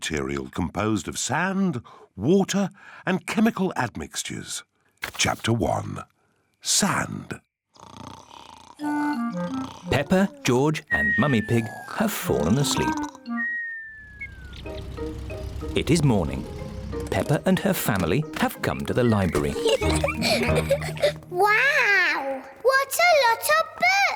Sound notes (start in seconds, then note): 7.7 snoring; 19.3 laughter